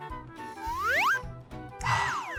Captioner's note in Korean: 날숨; 들숨